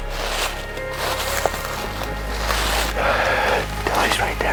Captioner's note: crunching leaves